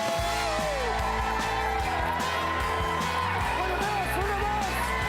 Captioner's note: audience cheering; upbeat pop music